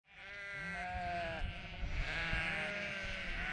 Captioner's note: sheep bleat